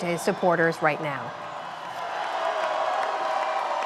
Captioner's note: cheering and applause